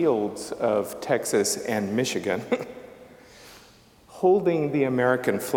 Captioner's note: chuckles